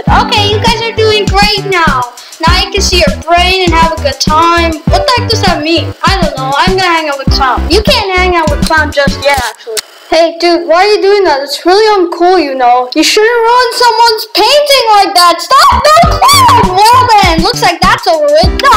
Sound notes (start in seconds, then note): 15.3 voice crack